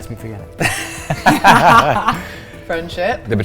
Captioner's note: laughter